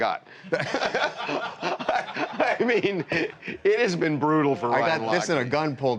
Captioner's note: laughter